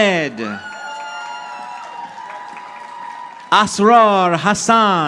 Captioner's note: audience applauding